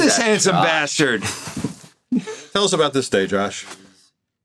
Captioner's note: chuckles